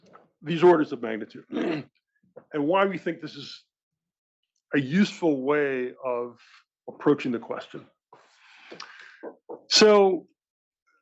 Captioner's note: cough